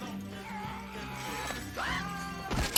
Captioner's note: victim growling; victim screeching